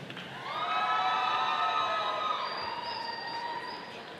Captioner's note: audience applauding